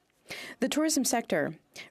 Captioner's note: speaking French